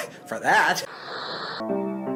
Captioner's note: radio channel static